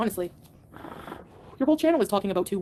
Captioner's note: smoke puffing